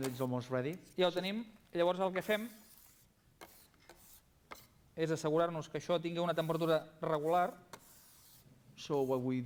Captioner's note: non-english speech